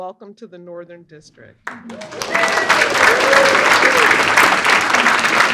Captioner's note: applause